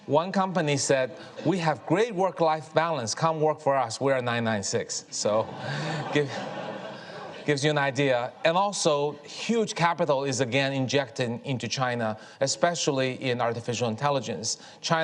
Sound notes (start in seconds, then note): 5.2 audience laughs